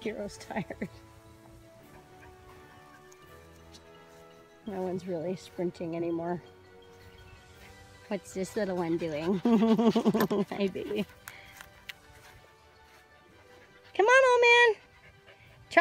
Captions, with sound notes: Gyro's tired. (laughs) No one's really sprinting anymore. What's this little one doing? (laughs) Hi, baby. Come on, old man.